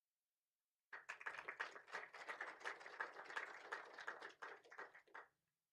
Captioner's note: applause